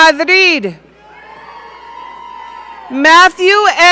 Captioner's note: audience cheering